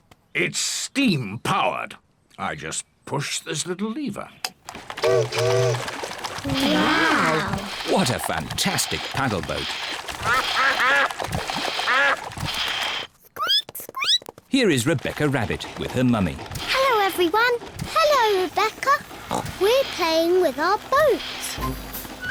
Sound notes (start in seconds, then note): 4.7 chimney toots; 10.3 ducks quack; 13.9 squeaks